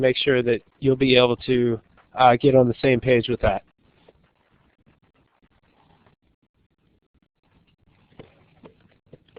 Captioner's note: pause